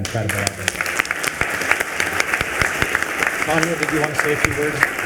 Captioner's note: attendees applauding